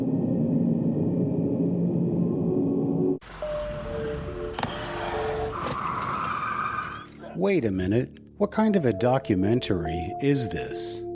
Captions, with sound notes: (gentle suspenseful music) (wind whirling) - Wait a minute, what kind of a documentary is this?